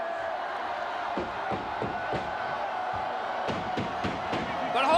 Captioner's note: loud banging